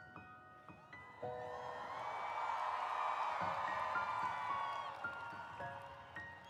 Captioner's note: applause